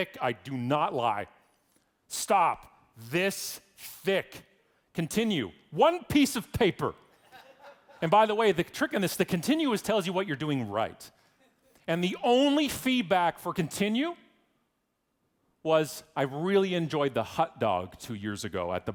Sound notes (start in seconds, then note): 7.2 audience laughing